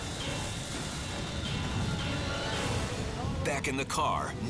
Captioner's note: flames roaring